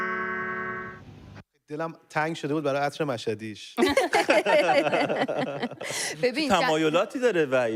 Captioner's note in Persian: خنده